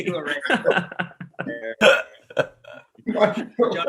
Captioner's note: laughing